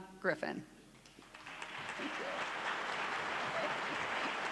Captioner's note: clapping